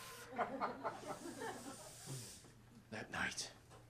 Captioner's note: laughter